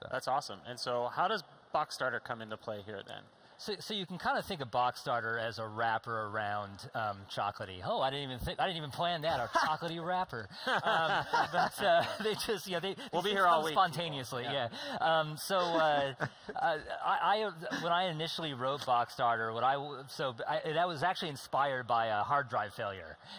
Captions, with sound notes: - That's awesome. And so how does Boxstarter come into play here, then? - You can kind of think of Boxstarter as a wrapper around Chocolatey. Oh! I didn't even plan that, a Chocolatey wrapper. [ Laughing ] - We'll be here all week. - They exist kind of spontaneously, yeah. When I initially wrote Boxstarter, I was actually inspired by a hard drive failure.